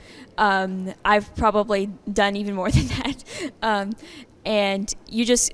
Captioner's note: chuckling